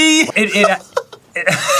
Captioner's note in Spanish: se ríe como un dibujo animado de los 60